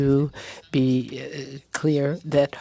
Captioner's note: speaking French